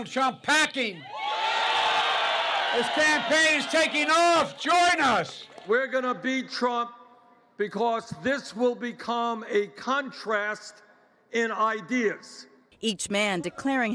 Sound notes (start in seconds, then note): 5.1 cheering and applause